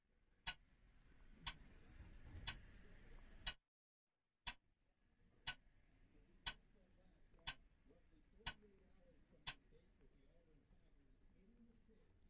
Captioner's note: clock ticking